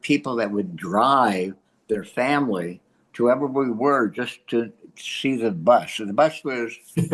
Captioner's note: laughs